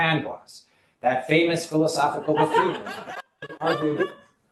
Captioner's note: laughter